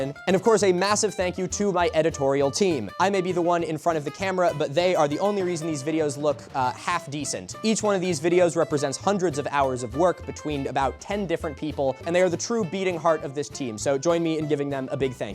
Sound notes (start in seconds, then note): none